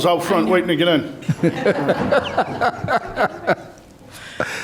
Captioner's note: chuckling